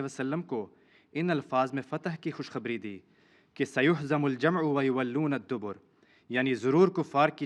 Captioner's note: Arabic